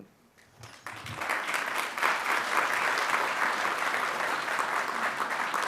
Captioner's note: audience applauding